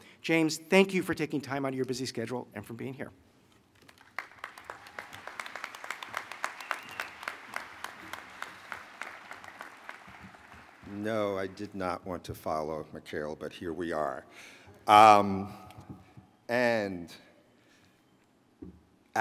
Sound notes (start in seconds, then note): 3.7 applause